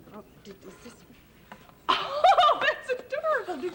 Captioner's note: laughs